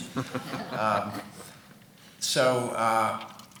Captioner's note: laughing